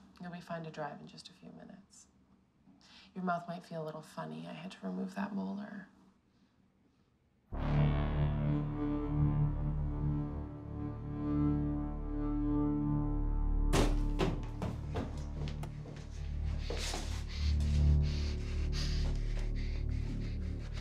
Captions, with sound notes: We'll find a driver in just a few minutes. Your mouth might feel a little funny, I had to remove that molar. (tense music) (footsteps thumping) (tense music)